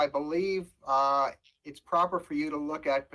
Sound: audio distortion

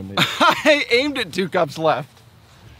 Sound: laughs

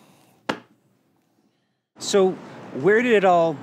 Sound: hand thwacking

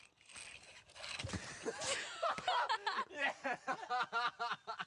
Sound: laughter

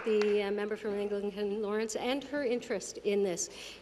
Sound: applause

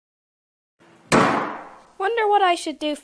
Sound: door slam

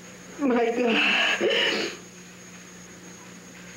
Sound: crying

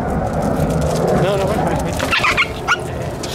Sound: squeals

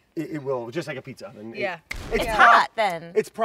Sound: explosion sound

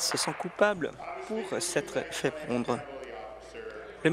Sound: applause

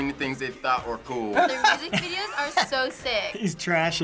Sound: laughs

